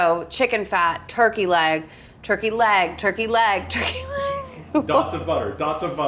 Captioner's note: chuckles